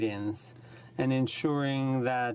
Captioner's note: speaking in french